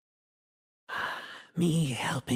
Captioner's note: sigh